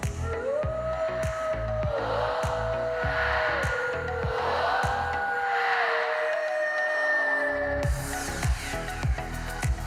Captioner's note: howling